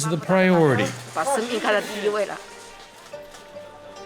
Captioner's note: speaking Mandarin